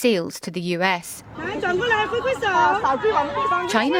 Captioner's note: crowd chatter